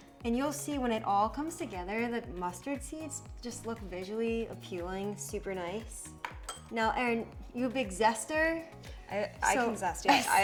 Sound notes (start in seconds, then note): 5.9 container thudding; 10.0 chuckling